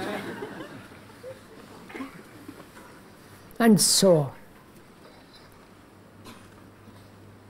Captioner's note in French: rires